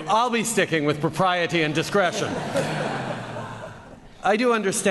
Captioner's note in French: Rires